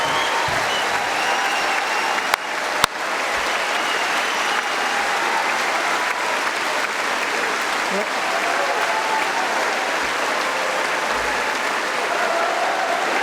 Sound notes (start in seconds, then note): 4.2 applause